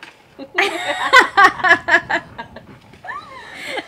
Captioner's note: laughs